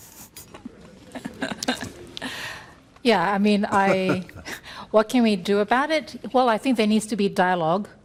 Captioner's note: chuckles